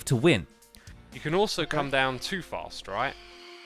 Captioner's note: phantoms screeching